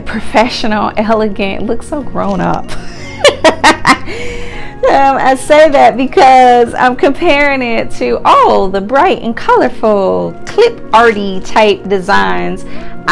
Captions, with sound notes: professional, elegant, it looks so grown up. (laughs) I say that because I'm comparing it to all the bright and colorful, clip-arty-type designs